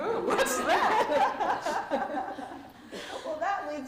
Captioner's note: laughter